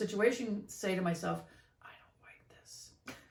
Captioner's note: whispers